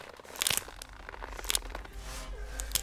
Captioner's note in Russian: скрип веревки; еще больше скрипов веревки